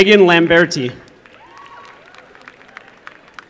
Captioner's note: applause